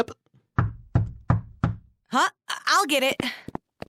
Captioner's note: door knock